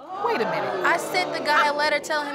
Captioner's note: audience exclaiming